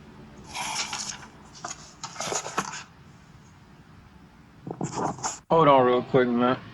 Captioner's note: closes book